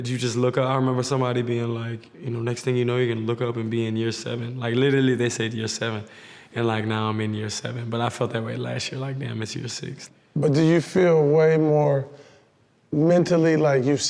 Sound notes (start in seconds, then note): none